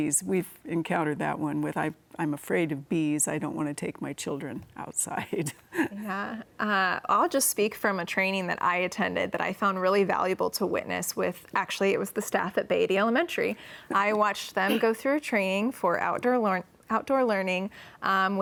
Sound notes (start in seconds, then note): 5.6 laughs